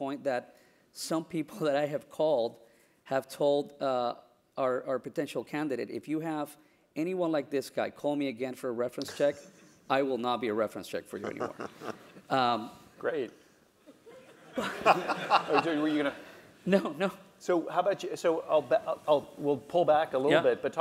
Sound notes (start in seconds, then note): 11.2 laugh; 13.9 laugh